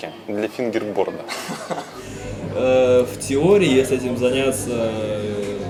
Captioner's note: laughs